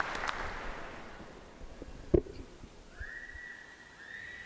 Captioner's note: applause